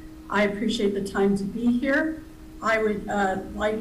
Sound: none

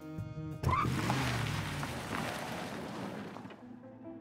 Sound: brake sounds

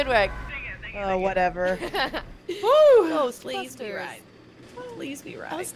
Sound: laugh

